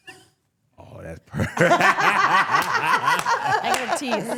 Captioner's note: laughs; laughing